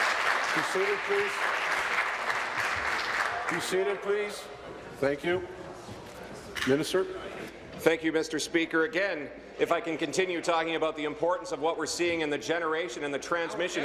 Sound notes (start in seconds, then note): 1.7 applause